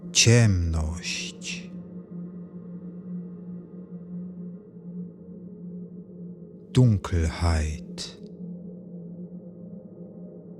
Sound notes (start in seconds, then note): 8.3 german